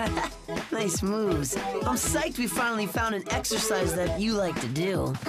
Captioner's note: laughs